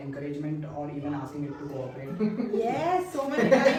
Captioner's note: laughter